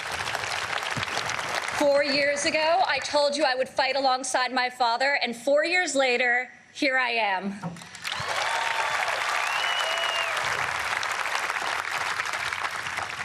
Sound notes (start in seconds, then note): 6.0 applause